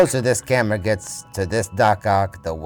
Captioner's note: laughing